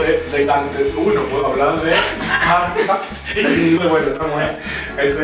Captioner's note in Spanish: risas